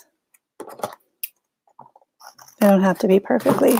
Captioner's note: scissors snipping